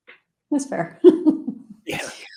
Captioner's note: laugh